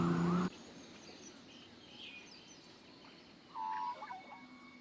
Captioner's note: car engine revving; birds chirping